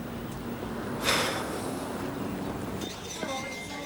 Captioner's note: Dave sighs; office workers chattering